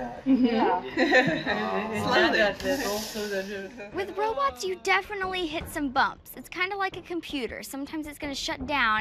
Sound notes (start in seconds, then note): 0.9 chuckle